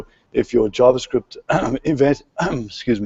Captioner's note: clears throat